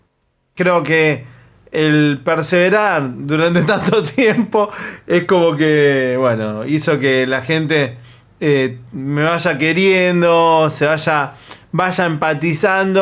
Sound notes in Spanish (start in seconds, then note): 3.4 risas